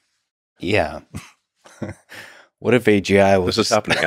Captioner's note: laughs